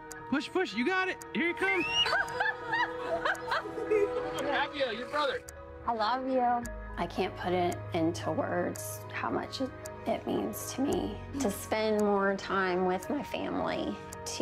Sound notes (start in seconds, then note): 4.9 laughter